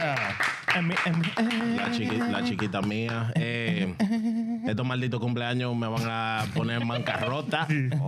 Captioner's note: clapping; speaking In Foreign Language